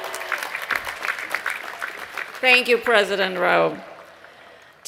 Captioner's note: applause